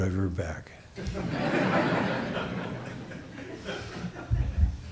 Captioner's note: audience laughs